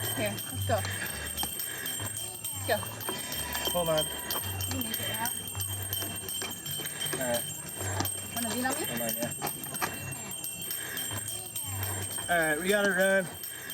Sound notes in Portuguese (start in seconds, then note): 5.1 continua a ouvir-se chocalhos